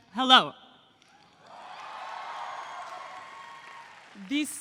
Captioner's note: audience applauds